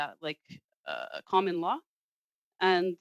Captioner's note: speaking French